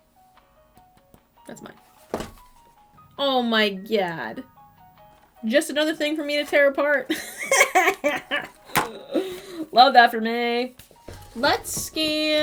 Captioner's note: eveL laugh